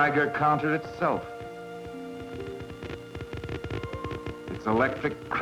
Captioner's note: ticking sound